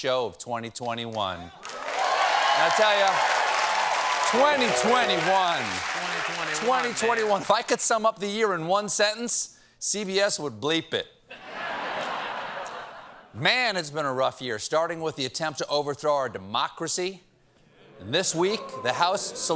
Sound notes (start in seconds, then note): 4.2 cheers and applause